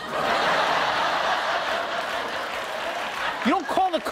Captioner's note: audience laughing